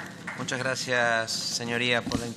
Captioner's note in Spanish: Aplausos